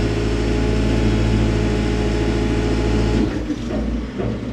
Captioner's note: machinery rumbling